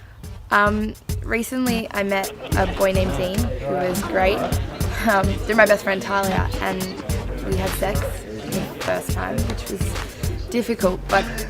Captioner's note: music and party sounds; laugh